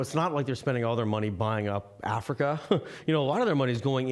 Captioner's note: chuckling